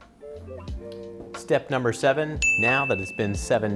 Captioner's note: dinging